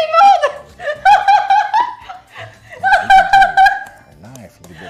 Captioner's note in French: rire